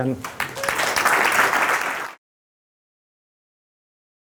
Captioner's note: applause